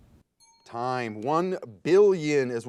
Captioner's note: ding